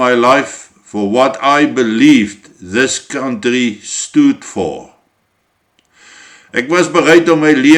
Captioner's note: repeated in Afrikaans